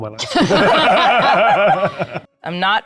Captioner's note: players laughing